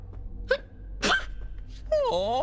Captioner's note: sneezes adorably